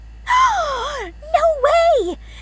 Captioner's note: gasps